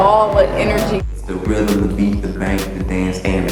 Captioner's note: voiceover